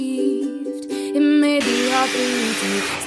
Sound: machine sanding

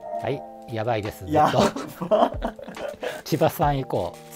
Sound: laughing

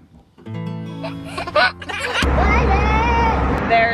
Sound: laughs

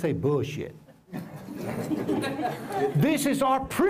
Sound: laughter

